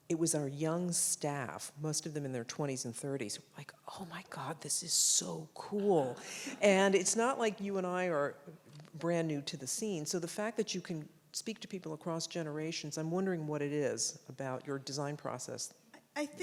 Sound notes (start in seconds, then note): 5.8 audience laughs